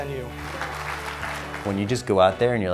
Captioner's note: clapping